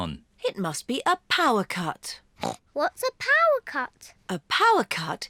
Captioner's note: grunts